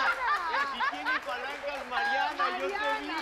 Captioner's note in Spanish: Risas